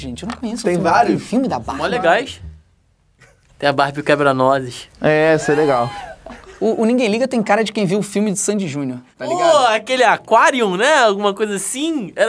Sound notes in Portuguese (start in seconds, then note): 5.4 risadas